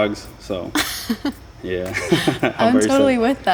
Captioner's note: laughing